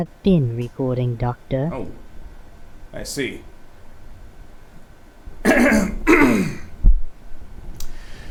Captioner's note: clears throat